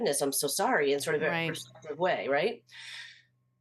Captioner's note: voice cuts out